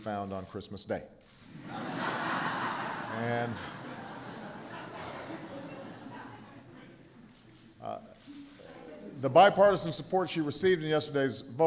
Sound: laughter

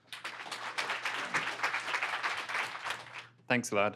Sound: applause

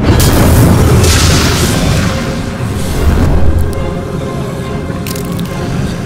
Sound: magic blazing; tense music

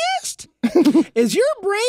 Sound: laughs

